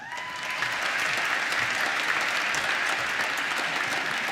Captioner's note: applause